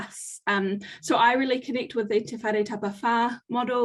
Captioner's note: speaking foreign language